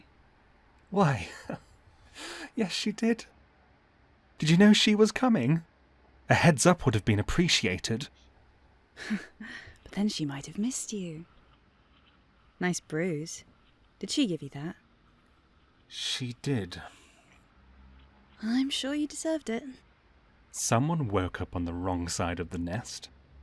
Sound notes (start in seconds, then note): 1.1 laughs; 9.0 laughs